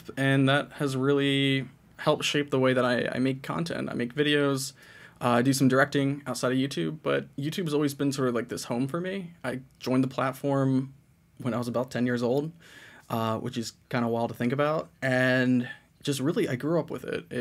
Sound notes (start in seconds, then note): none